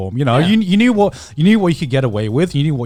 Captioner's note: affirmative murmuring